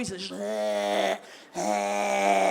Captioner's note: wretching sound